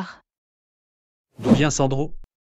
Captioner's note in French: FX - Whoosh - 03